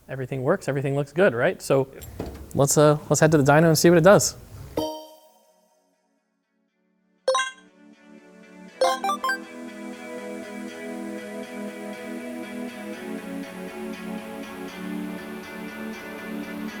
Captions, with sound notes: Everything works, everything looks good, right. So let's head to the dino and see what it does. (playful beeping) (upbeat music)